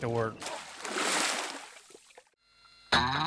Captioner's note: splashing; slow instrumental music